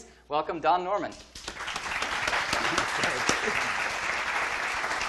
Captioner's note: audience applauding